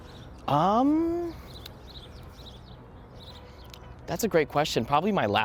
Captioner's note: birds chirping in background